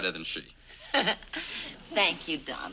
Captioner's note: Ann laughs